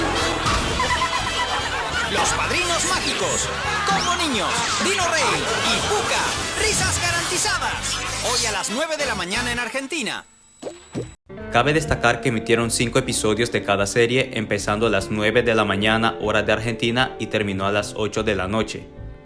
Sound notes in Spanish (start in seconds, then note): 0.8 risas